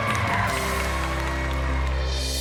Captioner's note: applause